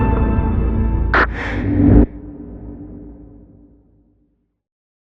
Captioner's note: quickck inhale e of oxygeg